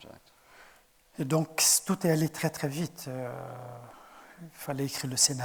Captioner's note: speaking in French